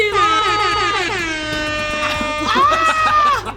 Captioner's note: sirens blaring; yelling; laughing